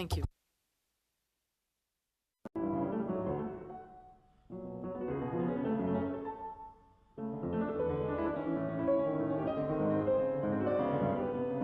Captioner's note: speaking French